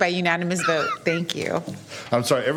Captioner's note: laughter